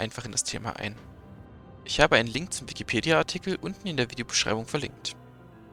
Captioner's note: German